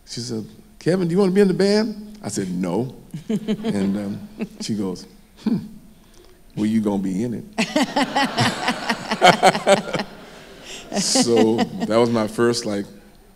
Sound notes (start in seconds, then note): 3.1 laughs; 7.6 everyone laughs